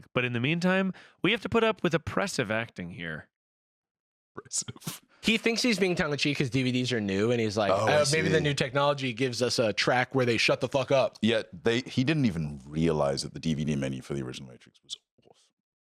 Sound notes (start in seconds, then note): 4.2 laughing